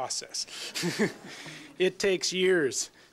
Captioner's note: laughter